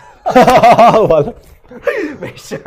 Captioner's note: laughs